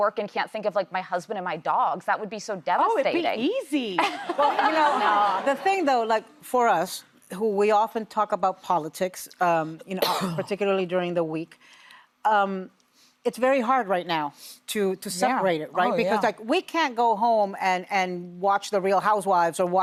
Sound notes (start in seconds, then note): 4.1 audience laughing